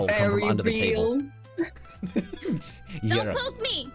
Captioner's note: laughter